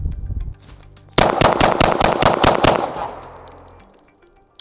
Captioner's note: gun firing